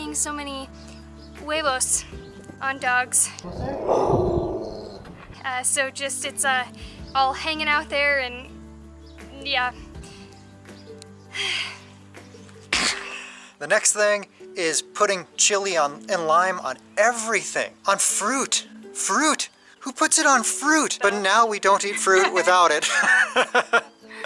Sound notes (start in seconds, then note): 3.4 pitbull growling; 12.7 laughter; 21.8 laughter